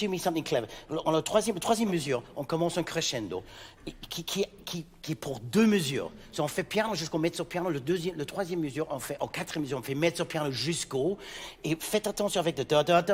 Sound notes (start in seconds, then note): 1.8 speaking in French